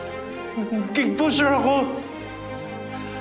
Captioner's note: camera shutters clicking; voice breaks